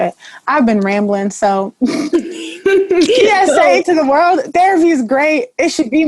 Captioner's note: laughter